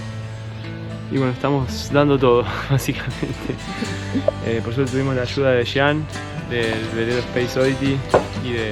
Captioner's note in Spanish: risas